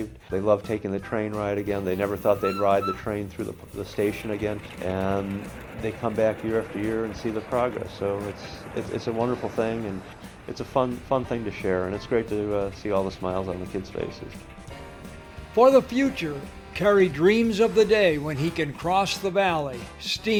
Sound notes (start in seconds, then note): 15.3 voiceover